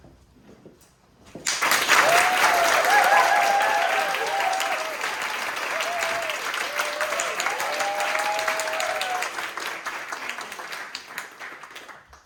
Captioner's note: medium Applause